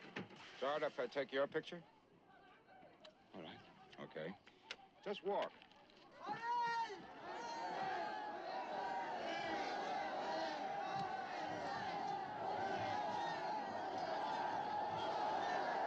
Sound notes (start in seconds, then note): 6.8 cheering